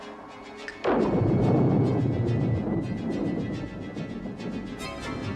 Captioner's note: snaps fingers; thunder clapping